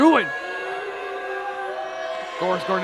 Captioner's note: crowd booing